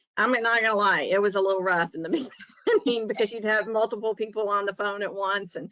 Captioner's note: laughs